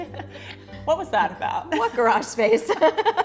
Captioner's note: laughter